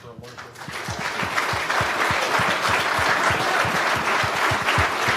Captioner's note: applause